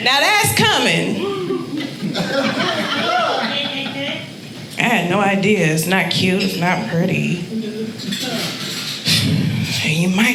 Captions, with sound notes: Now that's cumming. (audience laughing) I had no idea. It's not cute, it's not pretty.